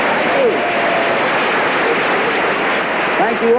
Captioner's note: applause